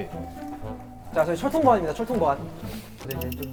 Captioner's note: shuffling